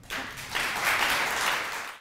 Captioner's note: applause